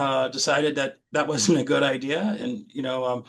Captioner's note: chuckles